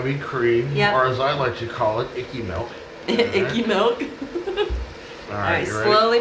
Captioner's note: chuckling